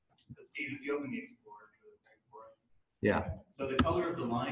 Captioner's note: speaking off mic